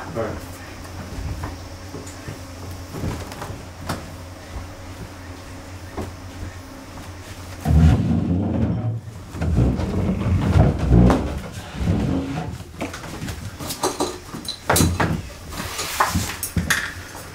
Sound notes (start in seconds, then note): 7.5 sound of chair dragging on floor; 13.8 sound of tableware